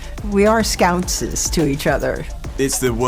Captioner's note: speaking na'vi